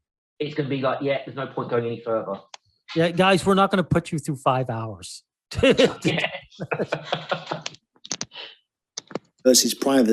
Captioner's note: laughing